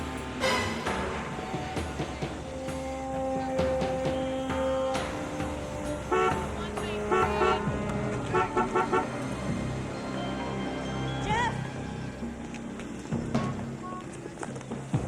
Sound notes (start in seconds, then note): 6.4 horn honking; 12.7 dramatic music